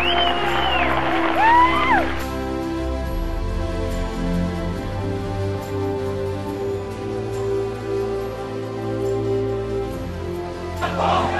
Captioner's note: cheers and applause